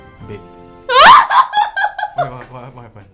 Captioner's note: screams hysterically